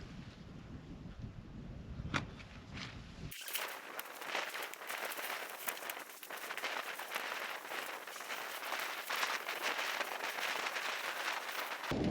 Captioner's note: creek of sleeping mat